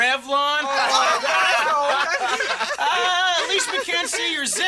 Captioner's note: laughter